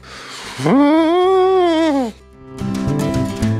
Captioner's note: scared sound